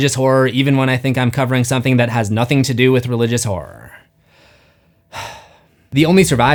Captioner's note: sigh